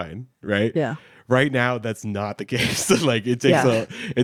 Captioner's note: laughs